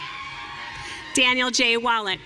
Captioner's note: audience cheering